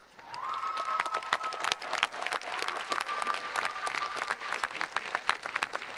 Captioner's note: audience applauding and cheering